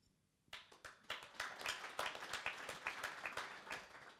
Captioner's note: crowd applauding